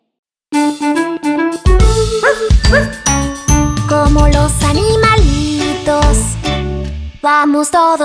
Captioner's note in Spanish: Música alegre; Ladrido